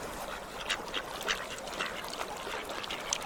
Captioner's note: ducks quacking